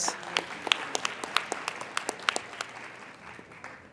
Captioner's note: applauding